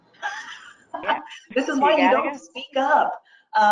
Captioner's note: laughing